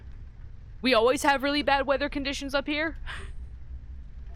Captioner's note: chuckle